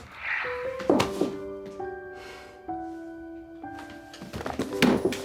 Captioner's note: dropping hands, sighs heavily